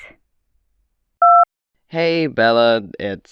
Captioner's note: voicemail beep